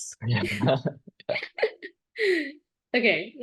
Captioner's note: laughter